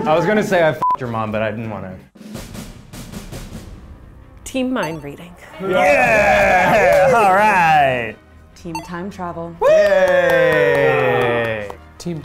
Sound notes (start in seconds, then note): 2.7 suspenseful music; 5.6 laughs